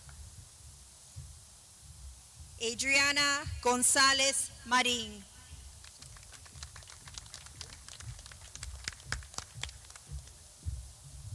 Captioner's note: clapping